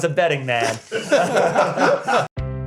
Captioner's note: laughter